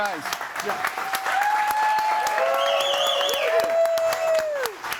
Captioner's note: audience applauds and cheers